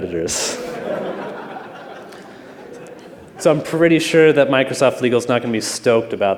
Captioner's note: laughter